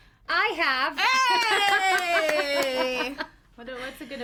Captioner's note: cheers